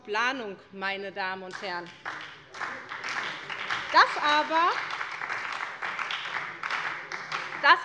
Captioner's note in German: Beifall bei der SPD